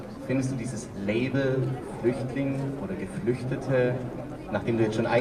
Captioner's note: speaking german